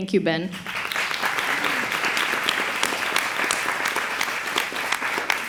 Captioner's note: applause